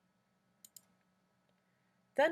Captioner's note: clicking sound